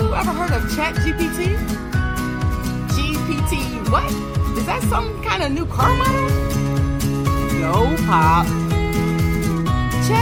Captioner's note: laughs